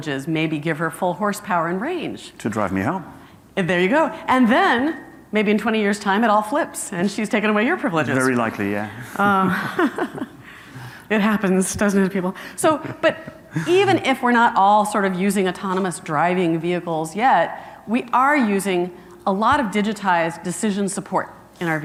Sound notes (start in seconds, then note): 9.1 softly laughing